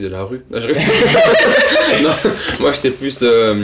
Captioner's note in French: ils rient